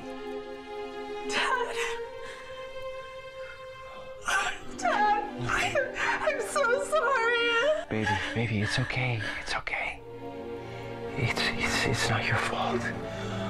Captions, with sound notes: - Dad. Oh Dad. I'm so sorry. (crying) - Baby, baby, it's okay, it's okay. It's not your fault.